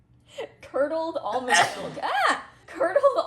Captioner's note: sneezes